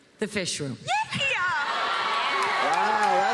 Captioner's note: cheers and applause